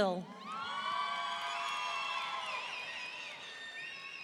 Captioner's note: audience cheering